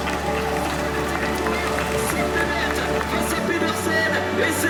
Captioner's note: announcer speaking foreign language